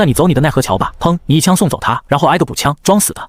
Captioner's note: bang